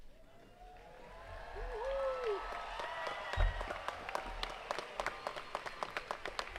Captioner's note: attendees cheering and clapping